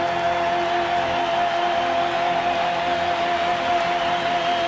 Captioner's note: applause